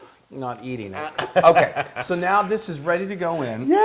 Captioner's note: laugh